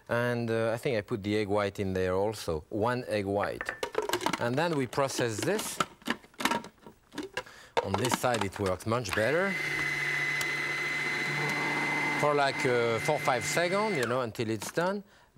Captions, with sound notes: And I think I put the egg white in there also, one egg white. And then we process this. On this side, it works much better. (food processor grinding) For like four, five second, you know, until it's done,